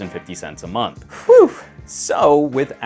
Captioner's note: sighs